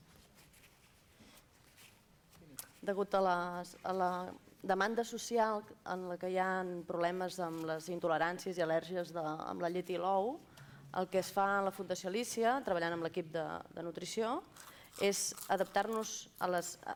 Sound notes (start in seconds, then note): 6.6 non-english speech